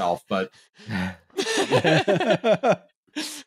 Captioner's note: laughter